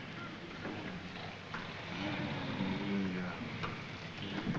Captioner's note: snoring